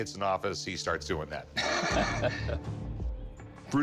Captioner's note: laughter